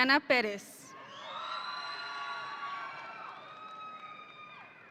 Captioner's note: audience cheering